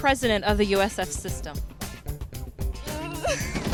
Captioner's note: laughter